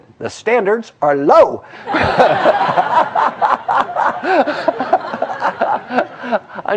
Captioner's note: laugh